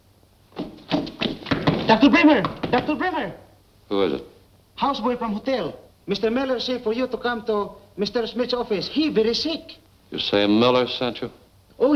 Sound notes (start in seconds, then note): 0.6 knocking